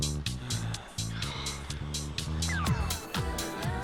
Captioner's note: Alan snoring